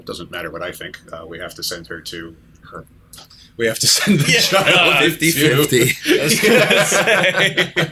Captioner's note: laughter